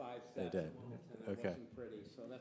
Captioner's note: speaks faintly